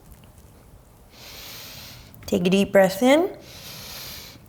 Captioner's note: deep breaths